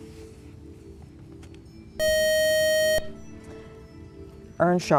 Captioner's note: buzzer